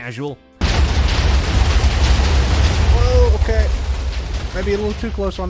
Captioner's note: explosions. So many explosions